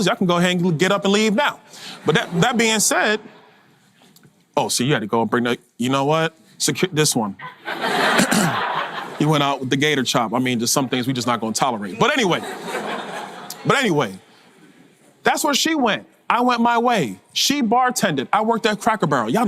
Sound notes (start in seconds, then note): 1.8 audience laugter; 7.4 audience laughter; 12.0 audience laughter